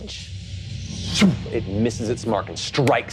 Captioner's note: imitates air whooshing